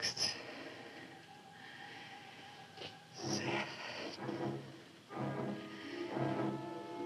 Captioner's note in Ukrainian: важке дихання